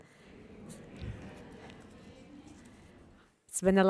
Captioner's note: audience murmurs